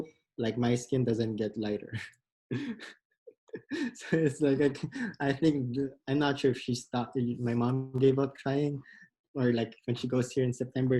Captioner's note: laughs